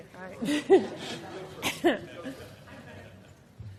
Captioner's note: laughing